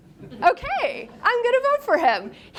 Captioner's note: students laugh